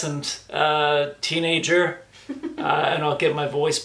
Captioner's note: laughs